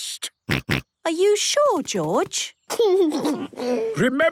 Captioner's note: giggles; George snorts